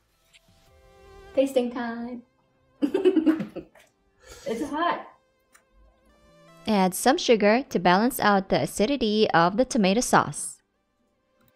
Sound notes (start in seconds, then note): 0.0 me in a chuckling voice; 2.8 chuckles; 4.0 slurping